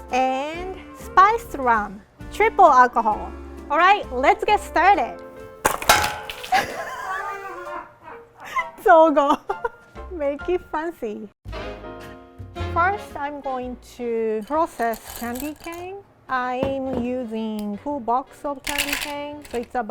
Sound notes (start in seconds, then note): 6.5 people laughing; 9.9 laughing; 11.5 jazzy music